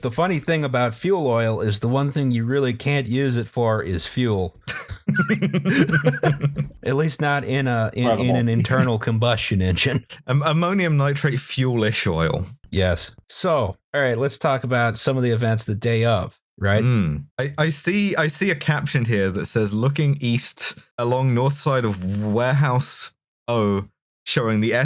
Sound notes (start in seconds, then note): 4.6 laughter